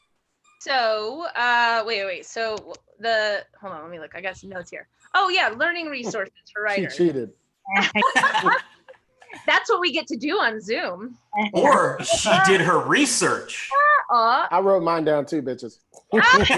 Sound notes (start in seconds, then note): 7.7 laughs; 16.1 laughs